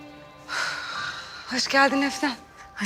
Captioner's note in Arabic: زفير مقصود